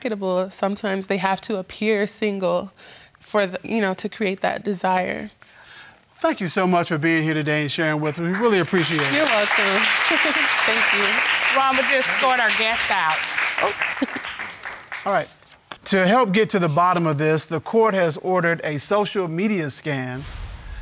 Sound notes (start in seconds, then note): 9.7 audience applauds; 9.7 giggles; 13.6 giggles